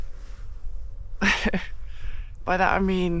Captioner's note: chuckles